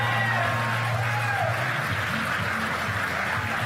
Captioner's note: cheers and applause